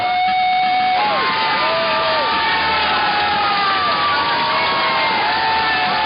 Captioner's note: cheering and applause